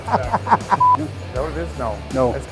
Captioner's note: laughing; beeps